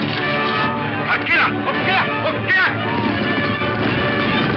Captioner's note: dramatic music; speaks in foreign language